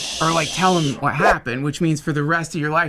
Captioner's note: air whooshes